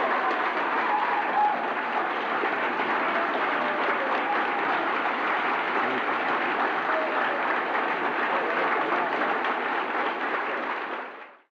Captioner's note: applause